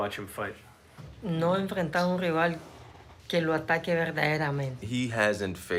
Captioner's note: speaking Spanish